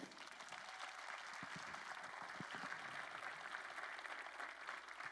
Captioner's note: crowd apllauding